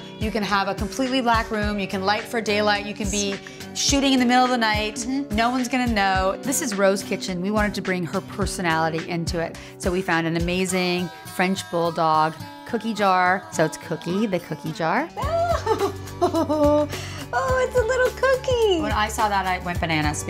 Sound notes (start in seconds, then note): 15.3 laughs